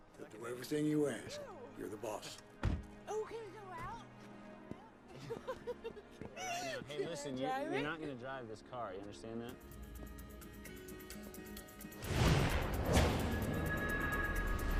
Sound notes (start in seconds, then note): 5.1 Nikita laughing; 12.0 air whooshing